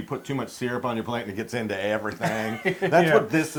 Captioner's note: laugh